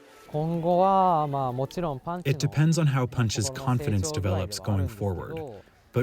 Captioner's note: through translator